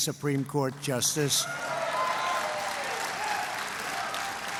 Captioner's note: applause